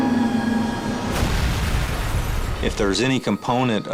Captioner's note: plane crashes